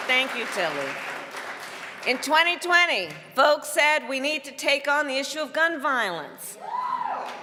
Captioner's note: applause